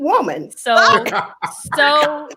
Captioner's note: laughing